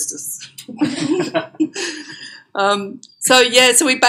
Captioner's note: laughter